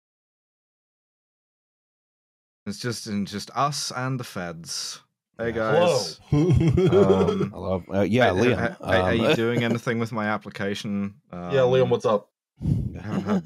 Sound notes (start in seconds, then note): 5.6 laughs